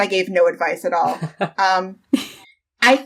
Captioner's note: laughs